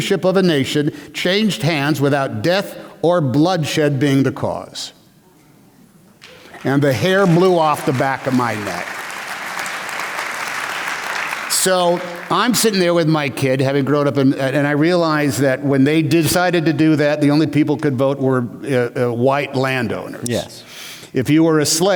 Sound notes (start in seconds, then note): 8.9 applause